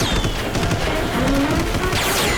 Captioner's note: gunshot; car backfire